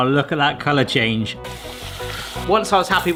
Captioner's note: water splashing